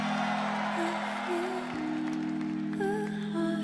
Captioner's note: crowd cheering